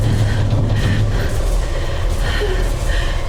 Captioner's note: banging stops; Kat breathing heavily